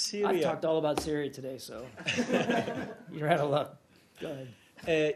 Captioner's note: laughter